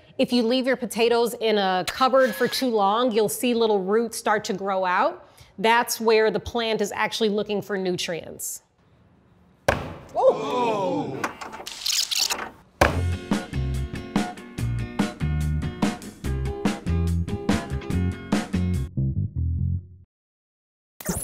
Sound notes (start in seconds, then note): 9.7 hammer smashing; 11.4 tape winding; 13.0 upbeat music